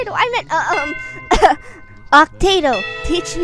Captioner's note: AHem